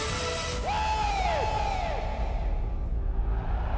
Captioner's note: Sting screams; audience cheering and clapping